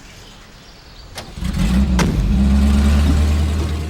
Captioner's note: engine roars